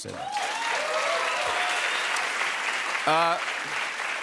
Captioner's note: cheers and applause